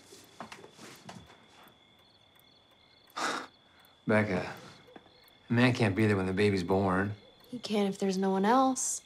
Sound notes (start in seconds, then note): 3.0 scoffs